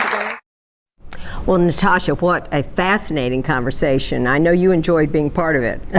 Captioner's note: applause